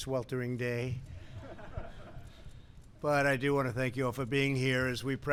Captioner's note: laughter